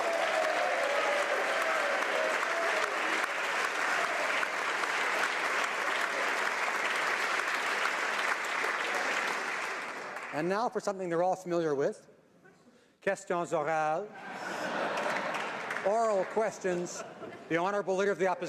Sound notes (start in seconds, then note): 2.8 applause